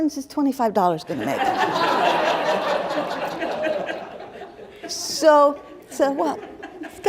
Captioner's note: laughter